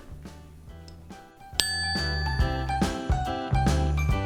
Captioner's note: bell ringing